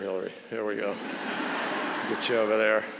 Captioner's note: audience laughs